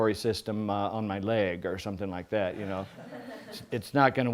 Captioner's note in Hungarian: kis nevetés